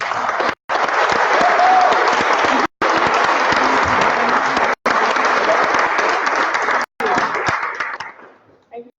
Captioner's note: applause